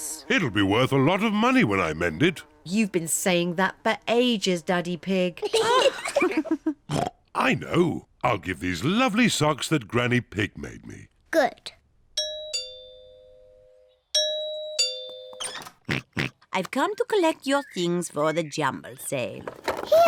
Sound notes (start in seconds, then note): 5.3 kids and mummy pig laugh; 6.9 oinks; 12.2 doorbell rings; 15.8 oinks